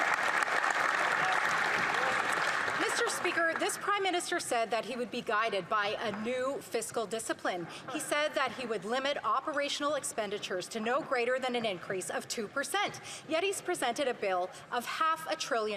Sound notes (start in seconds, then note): 3.7 some Applause